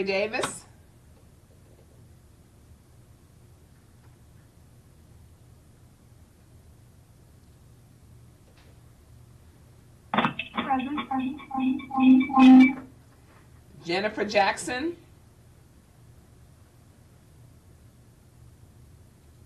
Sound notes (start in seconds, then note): 10.2 radio echoing